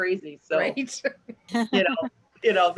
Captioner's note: laughs